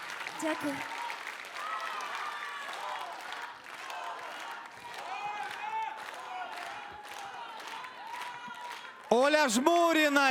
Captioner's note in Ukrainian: оплески